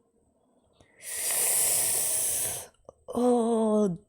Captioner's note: sharp inhale